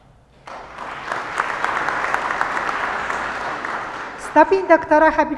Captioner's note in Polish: oklaski